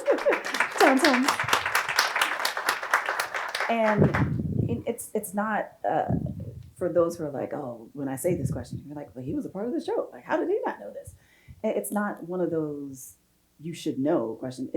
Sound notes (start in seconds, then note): 0.0 audience applauding